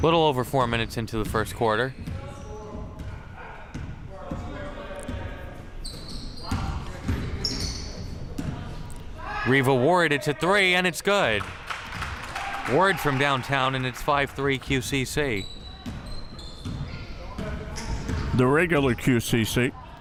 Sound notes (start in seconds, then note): 11.0 crowd cheering